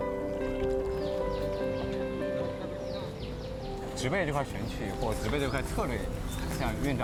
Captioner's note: speaking Chinese